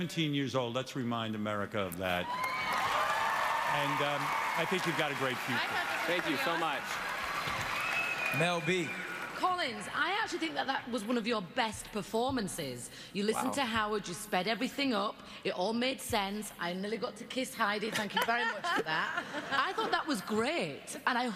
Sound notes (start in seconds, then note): 2.2 cheering